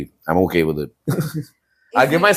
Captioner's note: laughs